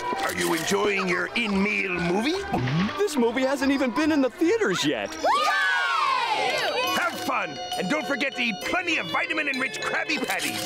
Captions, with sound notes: Are you enjoying your in-meal movie? This movie hasn't even been in the theaters yet. [cheering] Have fun. And don't forget the plenty of vitamin enriched Krabby Patties,